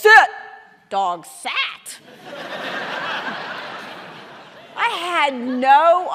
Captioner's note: audience laughing